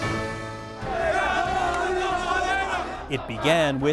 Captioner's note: angered shouting